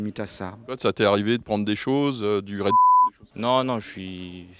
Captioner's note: beep